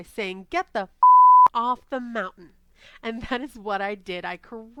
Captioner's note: beeping